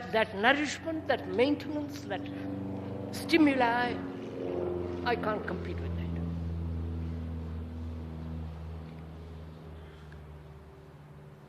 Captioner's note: noise of aeroplane